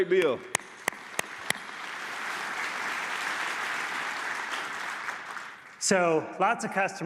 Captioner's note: applause